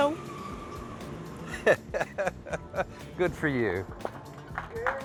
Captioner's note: laughs; cheers and applause